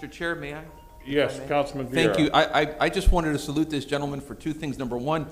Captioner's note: bell sounds